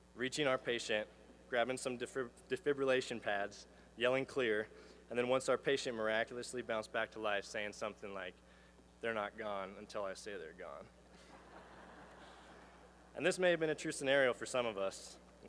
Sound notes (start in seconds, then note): 11.2 laughter